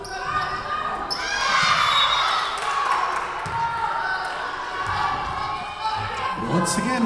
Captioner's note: Lions cheering; whistle blowing